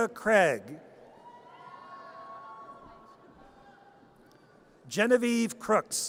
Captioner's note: audience cheers